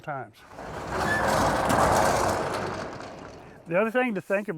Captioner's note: shutter creaking